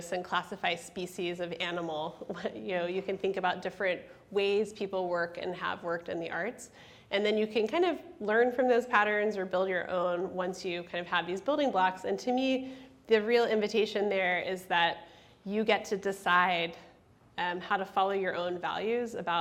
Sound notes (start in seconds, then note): none